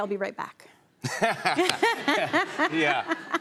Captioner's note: laughter